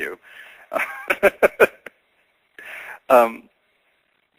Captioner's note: laughing